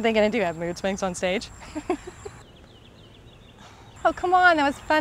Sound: laughs

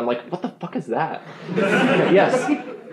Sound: laughing

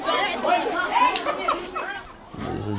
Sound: laughing

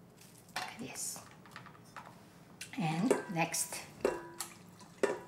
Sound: utensils tapping

